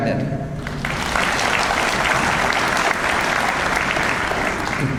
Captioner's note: audience applauds